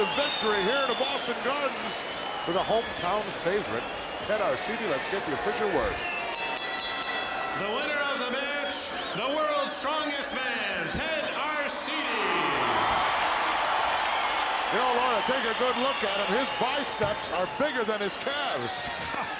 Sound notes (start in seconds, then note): 6.2 bell ringing; 12.8 audience cheering